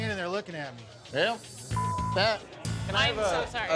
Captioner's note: beep